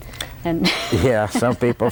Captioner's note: laughter